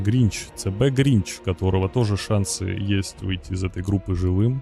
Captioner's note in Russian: none